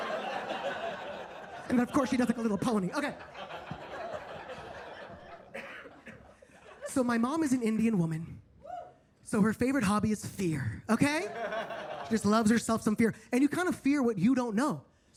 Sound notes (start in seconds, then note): 0.0 attendees laughing; 5.4 attendee coughing; 11.2 attendees laughing